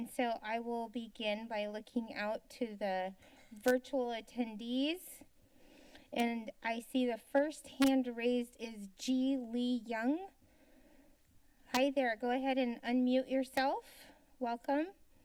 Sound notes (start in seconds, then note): 5.1 silence; 10.4 silence